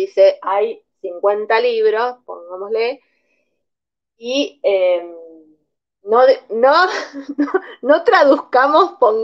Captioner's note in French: Rires